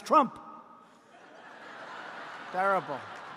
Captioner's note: laughter